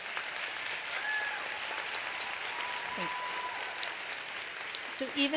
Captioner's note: applause